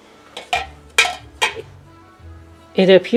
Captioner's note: clanking metal together